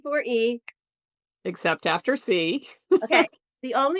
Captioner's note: chuckles